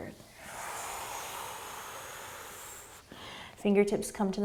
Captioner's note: exhaling